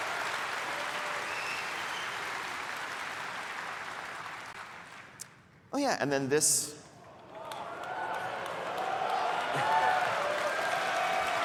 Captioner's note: applause